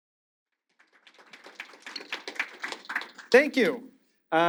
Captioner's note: audience applauding